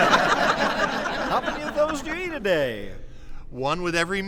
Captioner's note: audience laughs